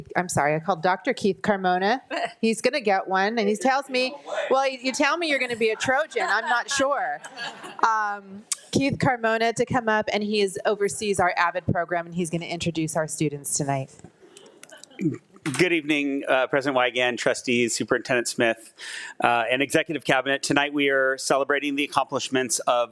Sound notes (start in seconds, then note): 3.9 faintly speaking; 7.4 attendees laughing